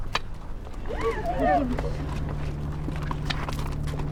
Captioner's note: gasps, screaming